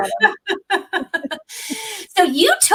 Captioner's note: laughter